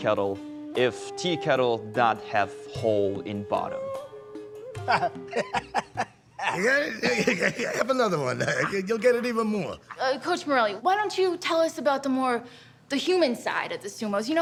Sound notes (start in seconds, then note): 6.3 laughing